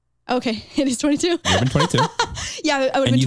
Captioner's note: chuckles